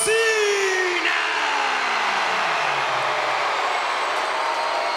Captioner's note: crowd cheers and boos